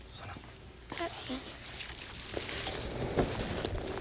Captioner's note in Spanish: susurra